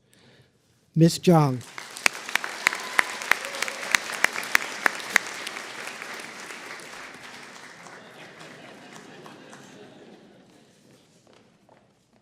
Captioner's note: applause